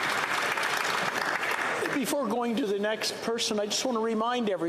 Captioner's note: some Applause